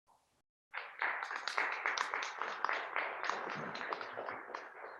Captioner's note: people clapping